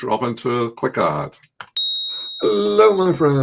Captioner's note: bell dinging